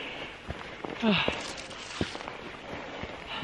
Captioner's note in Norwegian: puster og peser